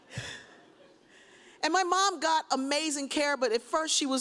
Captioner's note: audience laughs; sighs